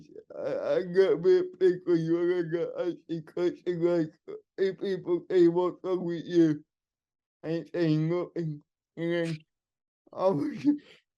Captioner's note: laughing